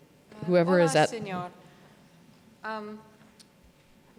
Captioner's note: voiceover